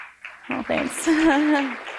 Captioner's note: applause